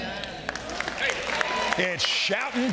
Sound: audience applauding

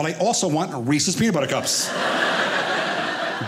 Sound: audience laughing

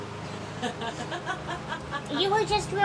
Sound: woman laughs

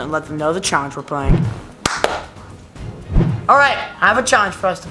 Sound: claps

